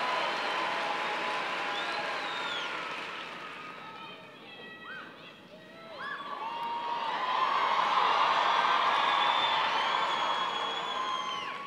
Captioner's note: cheers and applause